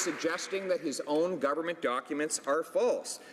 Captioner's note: some Applause